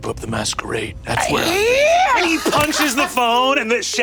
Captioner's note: screams